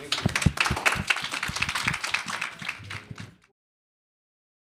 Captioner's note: applause